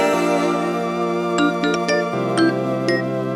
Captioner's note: phone dings